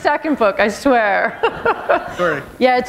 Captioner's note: chuckle